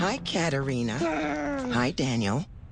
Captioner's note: growls